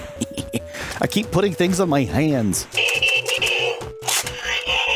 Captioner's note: more transformers noises; transformers noises